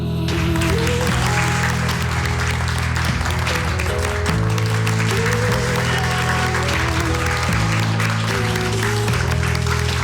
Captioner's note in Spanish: Continúan los aplausos